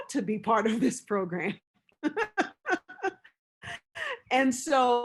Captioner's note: laughs